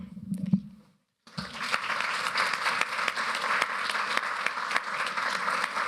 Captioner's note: applause